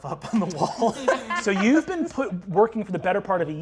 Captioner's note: laughing